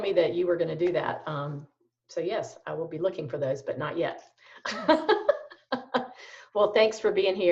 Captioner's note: laughs